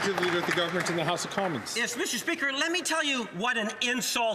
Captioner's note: some Applause